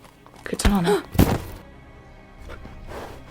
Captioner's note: Katanah gasps; bump